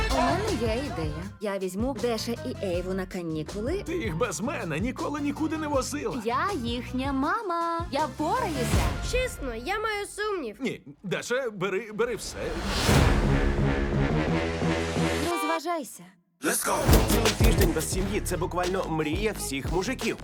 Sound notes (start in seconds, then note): 13.8 horn honks